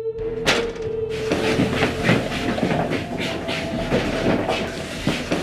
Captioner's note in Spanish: Sound arrastrando los pies en el suelo